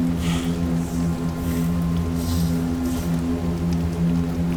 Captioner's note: Hard breathing Jan